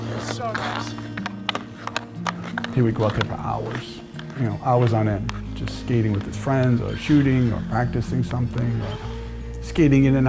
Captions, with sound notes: - It's so nice. (stick clattering) - He would go out there for hours, you know, hours on end, just skating with his friends or shooting, or practicing something or skating in